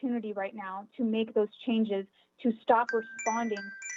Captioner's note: chime